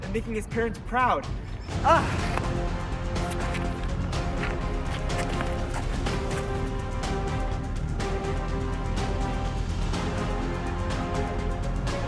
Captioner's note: Ultimate Swordfighting Montage Sounds